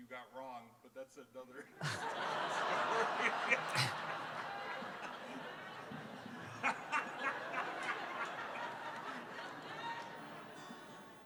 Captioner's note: audience laughs, laughs; acoustic guitar strums